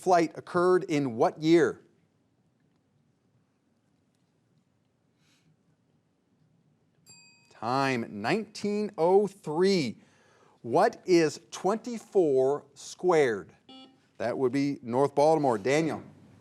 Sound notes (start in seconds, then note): 7.0 bell rings; 13.6 buzzer beeps